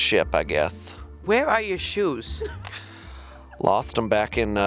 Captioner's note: gentle music; chuckling